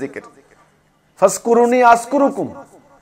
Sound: Arabic

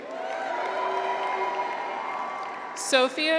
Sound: audience applauds; graduates cheer

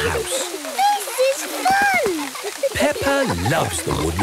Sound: laughter

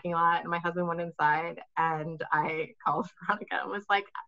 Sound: laughing

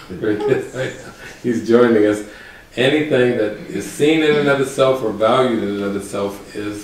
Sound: laughs

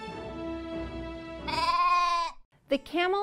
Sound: sheep baaa!

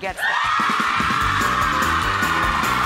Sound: audience cheering and screaming; energizing piano music

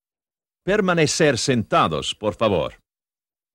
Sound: in Spanish

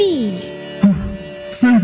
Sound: heavy breathing

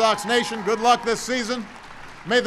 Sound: applause

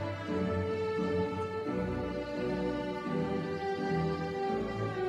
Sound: none

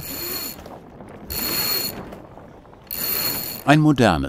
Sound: metal rubbing

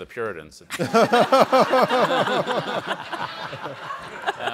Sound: all laugh

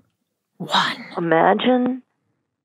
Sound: whispering

